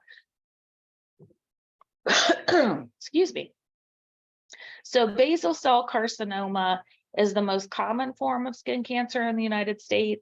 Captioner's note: coughs